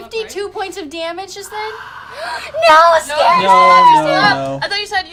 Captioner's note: rasping breath